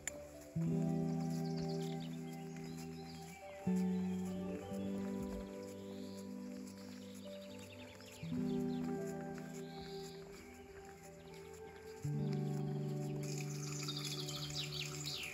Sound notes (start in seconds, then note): 0.1 gentle music; 8.7 speaking foreign language